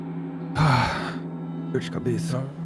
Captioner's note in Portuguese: suspiro